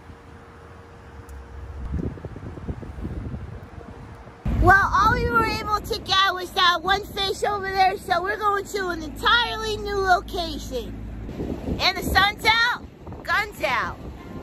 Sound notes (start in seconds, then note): none